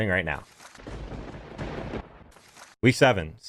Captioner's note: thunder claps